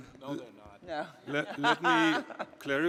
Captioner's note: laughs